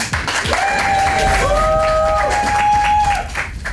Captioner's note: crowd clapping and cheering